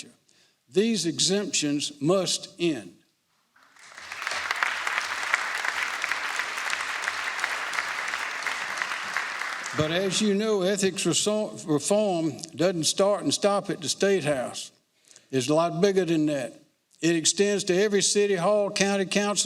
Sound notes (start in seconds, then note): 5.7 applause